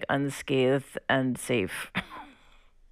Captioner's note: laughter